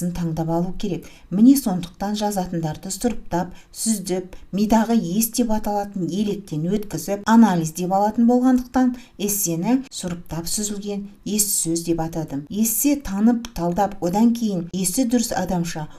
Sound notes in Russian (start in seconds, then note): 7.1 на казахском